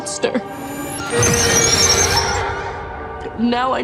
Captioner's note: machine zapping